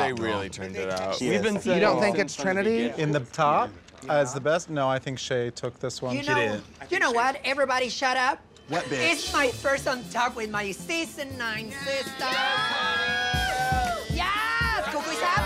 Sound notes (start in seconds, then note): 12.1 cheering; 15.2 overlapping cheers